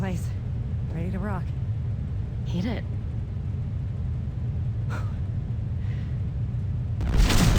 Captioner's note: explosion